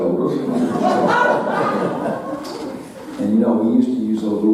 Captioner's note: audience laughing